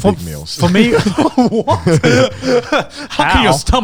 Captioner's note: group laughs